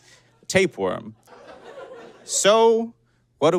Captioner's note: scattered giggling